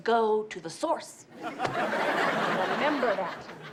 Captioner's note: audience laughs